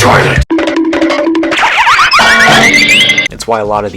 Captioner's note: wacky cartoon sfx